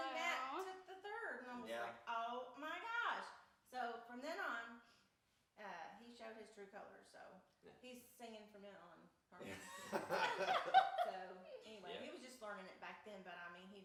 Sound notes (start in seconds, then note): 9.4 group laughs